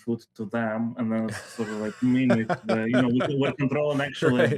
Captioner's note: hahahahaha